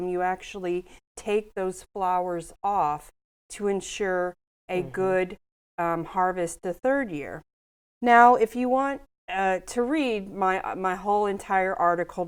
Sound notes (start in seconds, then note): none